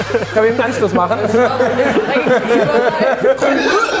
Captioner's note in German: Lachen; Schweinegrunzen, Husten